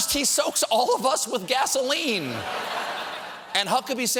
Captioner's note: laughter